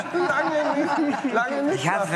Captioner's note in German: Lachen